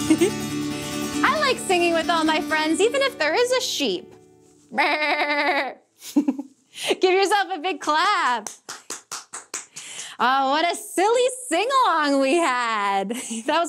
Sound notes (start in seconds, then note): 0.0 chuckles; 8.3 clapping